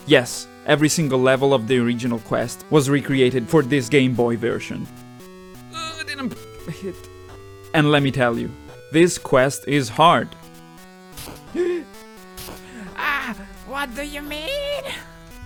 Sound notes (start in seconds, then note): 11.2 gasps